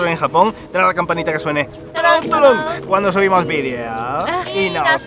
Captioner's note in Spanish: sonidos de campana